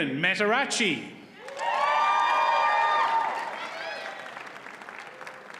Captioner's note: audience cheers and applauds